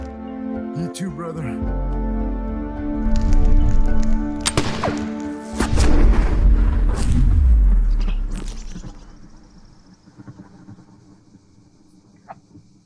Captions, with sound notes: You too, brother. [Gunfire] [Enormous explosion] [Birds chirp, take flight]